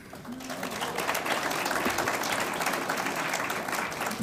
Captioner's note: audience applauds